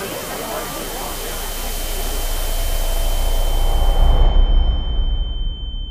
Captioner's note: high pitched ringing